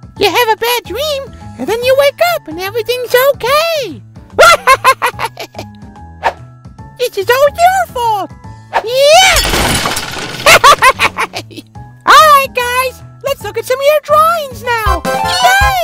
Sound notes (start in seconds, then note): 4.4 laughs; 9.2 toy crashes; 10.4 laughs